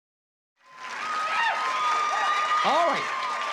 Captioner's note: applause and cheering